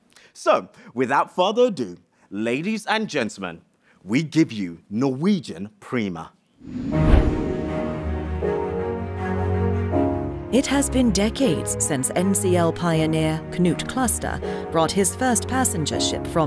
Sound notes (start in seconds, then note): 6.6 screen whooshes; 6.7 strident music